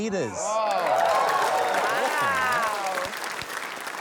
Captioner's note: cheering